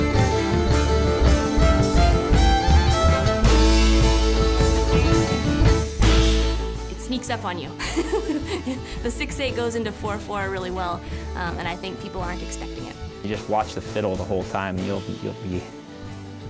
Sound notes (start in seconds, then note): 7.8 laughs